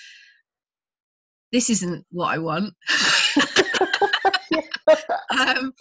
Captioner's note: both laughing